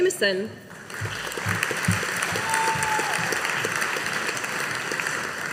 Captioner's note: audience applauding